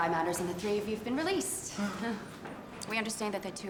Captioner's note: chuckles